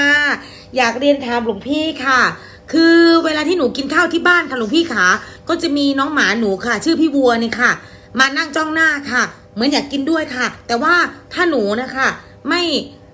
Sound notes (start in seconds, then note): none